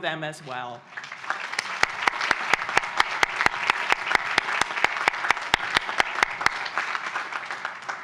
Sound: applause

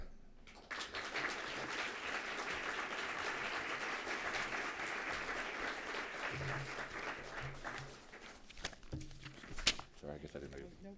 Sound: applause

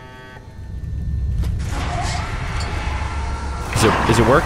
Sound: low rumbling changing to Suction Noise

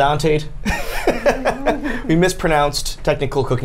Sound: Tyler and Safiya laugh

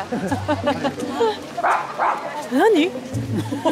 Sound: bark

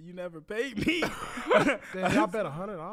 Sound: laugh

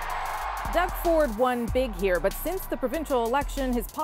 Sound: cheers and Applause

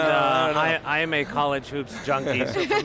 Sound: laughs

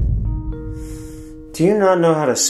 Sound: irritated inhale

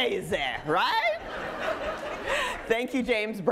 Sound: audience laughing

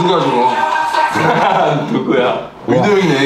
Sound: burst into laughter

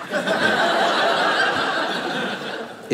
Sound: audience laughing

